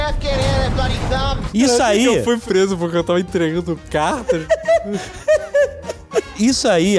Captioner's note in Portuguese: risos